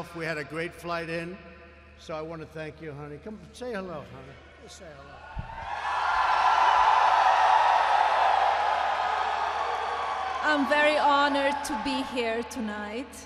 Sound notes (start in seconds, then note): 5.8 applause